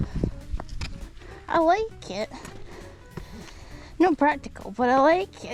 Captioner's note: loud breath